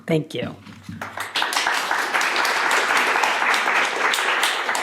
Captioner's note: audience applauding